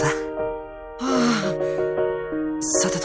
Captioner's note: relieved sigh